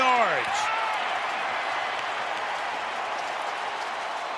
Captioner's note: cheering